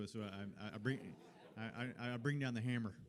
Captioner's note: laughter